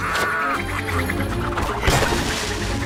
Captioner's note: cackles; squeals